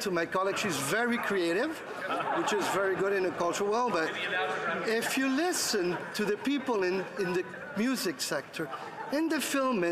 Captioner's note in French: voix de l'interprète